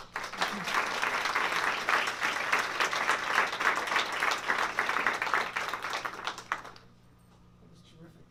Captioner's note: applause